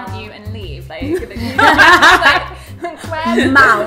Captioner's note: laughs